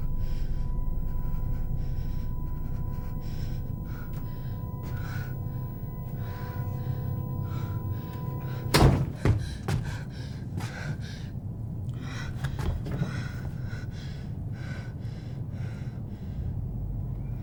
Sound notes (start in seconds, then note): 8.7 door opens; 12.0 panting